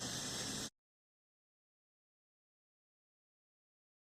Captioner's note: static hissing